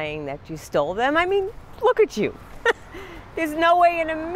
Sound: chuckles

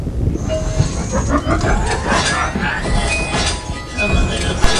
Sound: evil Laughter

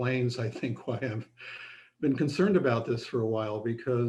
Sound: laughter

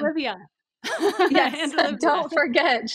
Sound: laughs

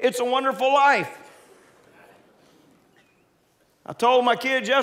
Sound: congregants laughing

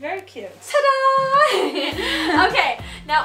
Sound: laughs

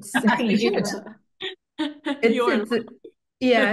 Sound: everybody laughing

